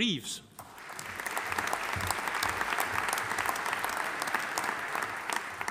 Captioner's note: audience applauding